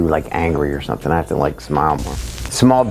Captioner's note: static buzzing